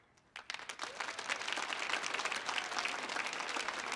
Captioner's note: audience clapping